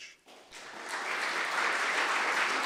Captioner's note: applause